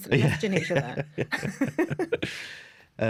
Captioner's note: laughter